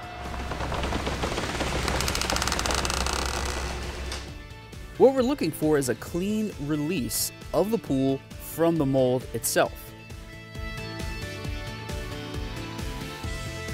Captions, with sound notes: (machine creaking) What we're looking for is a clean release of the pool from the mold itself. (chill rock music)